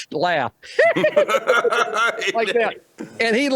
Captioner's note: laughing